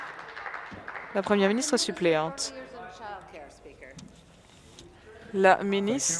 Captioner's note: applause